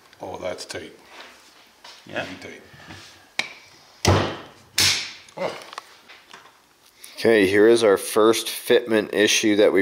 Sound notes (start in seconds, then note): 4.0 table thuds; 4.8 tab snaps